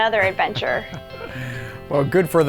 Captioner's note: laughs